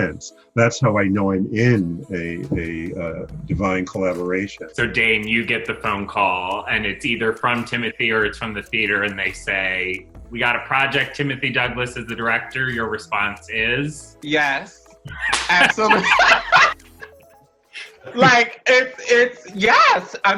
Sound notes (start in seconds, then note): 15.0 laughter